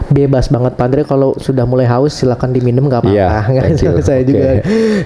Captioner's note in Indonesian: tertawa